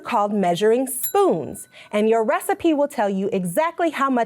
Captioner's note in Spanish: tintinea la campana